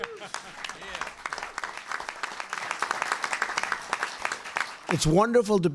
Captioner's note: applause